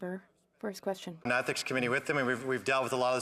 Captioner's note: speaking French